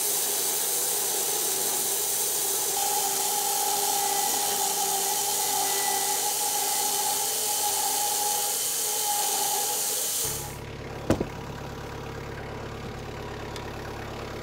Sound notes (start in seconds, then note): 3.3 saw buzzes; 10.0 engine running